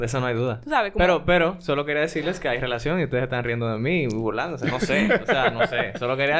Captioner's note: laughs